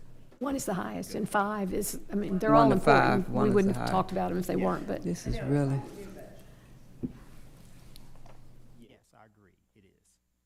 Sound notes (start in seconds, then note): 6.0 speaking quietly